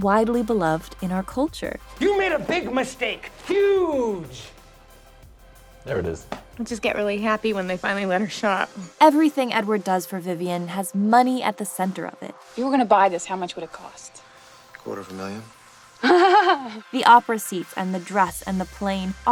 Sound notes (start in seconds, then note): 16.0 laughing